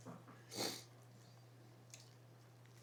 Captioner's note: snorts